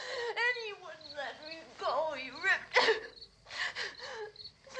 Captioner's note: sobs